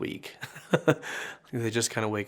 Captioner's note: laughing